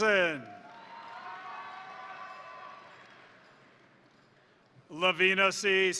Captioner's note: crowd cheering; crowd applauding